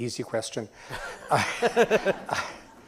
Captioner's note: laughs